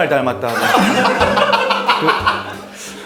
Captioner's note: ha ha ha ha ha